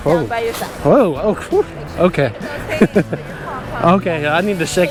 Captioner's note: chuckles